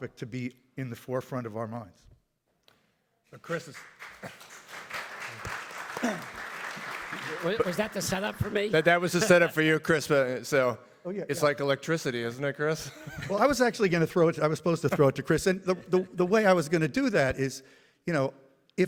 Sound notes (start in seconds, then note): 3.4 audience applauds; 4.2 chuckles; 12.8 laughs